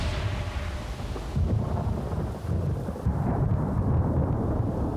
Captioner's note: thunder rumbles